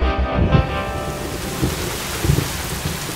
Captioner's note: Rain pattering